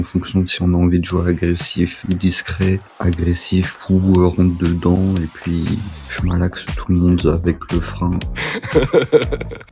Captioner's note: laughs